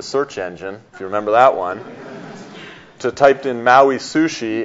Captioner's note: audience laughs